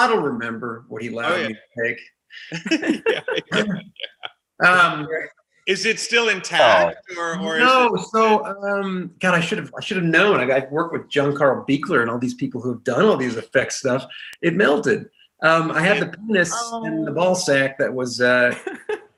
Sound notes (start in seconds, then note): 2.4 group laughing